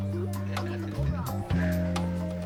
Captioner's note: exhales